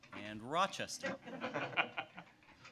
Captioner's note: laughter